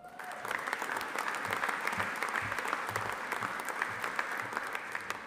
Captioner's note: audience applauding